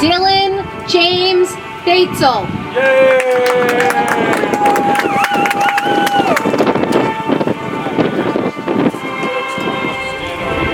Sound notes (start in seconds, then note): 2.8 audience applauds; 7.8 soft music